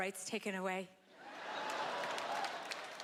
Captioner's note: laughter